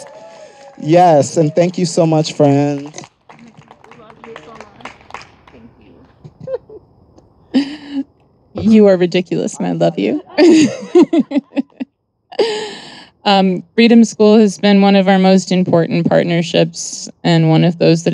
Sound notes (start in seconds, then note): 0.0 audience applauding and cheering; 6.0 chuckles; 9.7 laughs